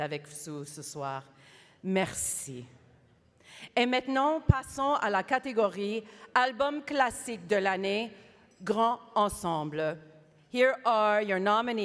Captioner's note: speaking French